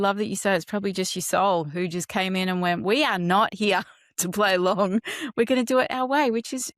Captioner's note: laughs